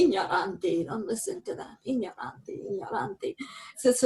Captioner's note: in Italian